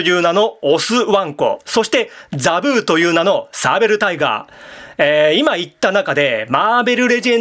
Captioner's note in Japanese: 息をのむ音